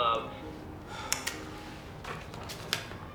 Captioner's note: sighs